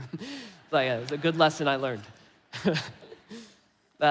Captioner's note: laughs; laughs